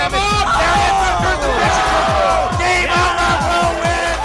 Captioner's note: cheering